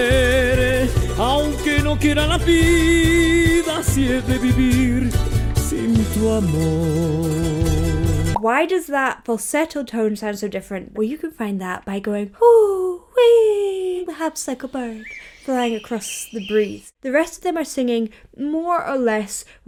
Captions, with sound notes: - Why does that falsetto tone sound so different? Well, you can find that by going, ooh, whee, perhaps like a bird flying across the breeze. (birds chirping) The rest of them are singing more or less